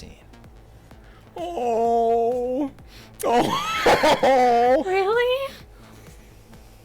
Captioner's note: chuckling